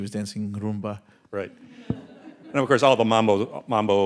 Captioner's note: audience laughing